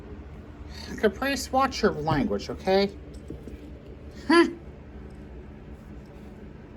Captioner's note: scoffs